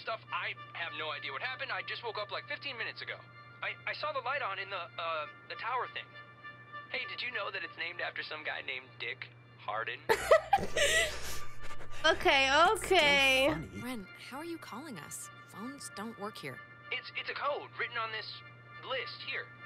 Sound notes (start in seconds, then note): 10.1 laughter